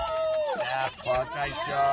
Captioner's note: cheering